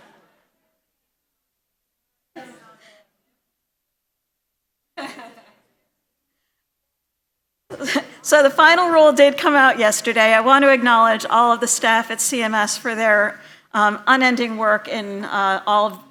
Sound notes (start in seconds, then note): 1.4 laughter